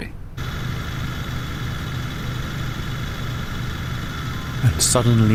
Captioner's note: heavy motor noise